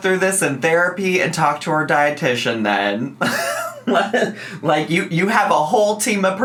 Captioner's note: laughs